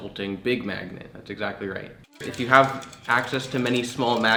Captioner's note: magnets clacking